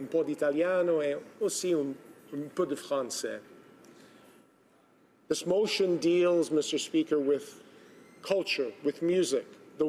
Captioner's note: speaking Italian